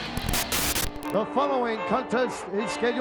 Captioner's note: static hisses